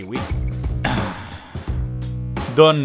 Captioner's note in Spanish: sigh